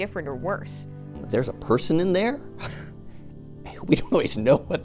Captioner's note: chuckles